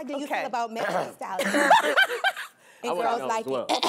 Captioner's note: laughing